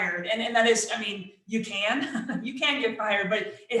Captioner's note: chuckles